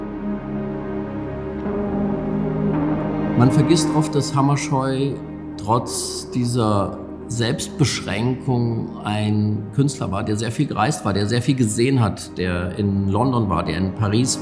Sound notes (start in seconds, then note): 0.2 gentle music; 3.5 speaking in foreign language